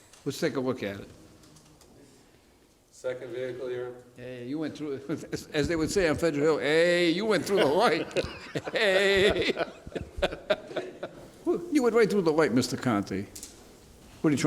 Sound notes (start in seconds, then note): 7.3 laughter